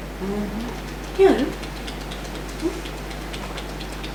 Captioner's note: tapping